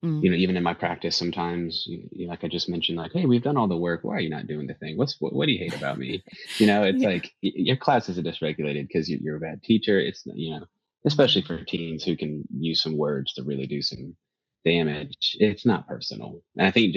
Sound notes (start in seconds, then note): 5.0 laughs